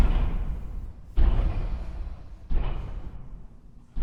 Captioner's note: slow thudding footsteps